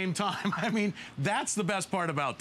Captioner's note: laughter